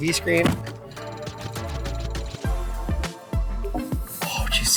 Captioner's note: screen chirping